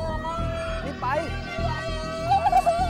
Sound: groans

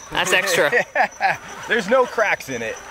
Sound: host laughs

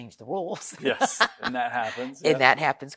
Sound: laughs

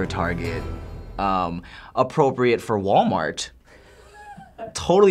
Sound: Finebros snickers

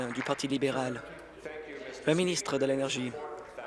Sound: applause

